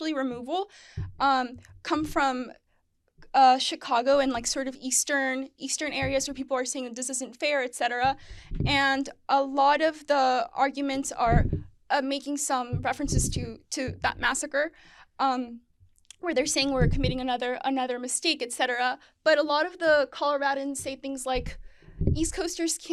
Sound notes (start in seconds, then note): none